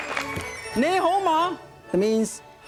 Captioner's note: speaking in foreign language